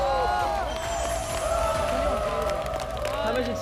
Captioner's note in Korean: 환호하는 연습생들